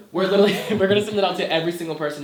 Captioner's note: laughs